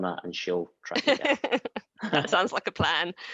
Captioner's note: laughs